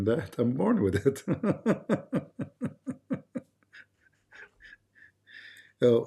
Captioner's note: Ketawa